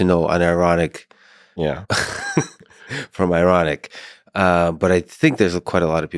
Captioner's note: chuckles